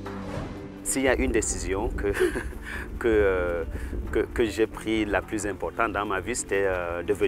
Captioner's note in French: rires